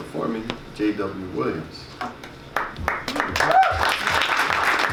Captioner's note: audience claps